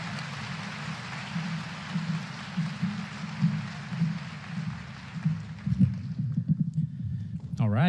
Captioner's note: applause